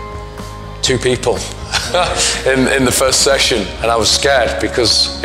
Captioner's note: laughs